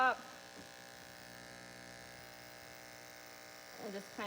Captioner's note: buzzing noises